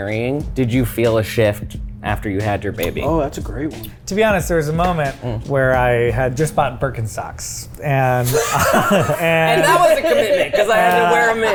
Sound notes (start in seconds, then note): 8.2 laughing